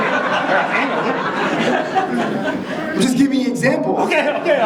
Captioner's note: audience chuckling